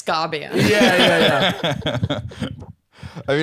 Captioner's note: all laughing